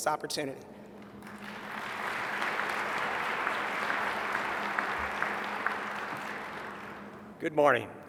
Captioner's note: applause